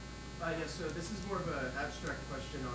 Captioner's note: male Voice